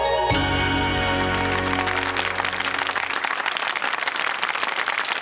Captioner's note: audience claps